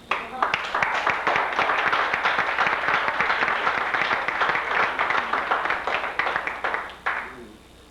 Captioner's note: applause